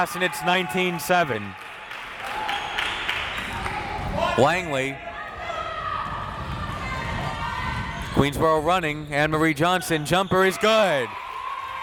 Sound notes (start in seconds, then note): 2.6 crowd clapping